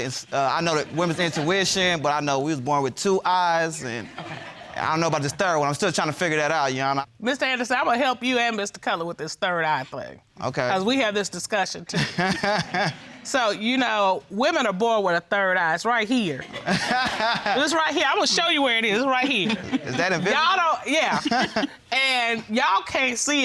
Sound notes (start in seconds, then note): 12.0 laughs; 16.6 laughs